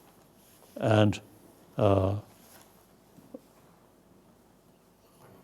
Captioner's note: speaking foreign language